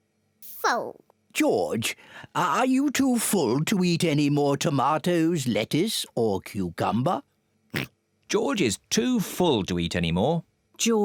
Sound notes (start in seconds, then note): 7.7 oinks